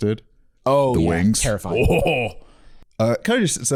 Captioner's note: groans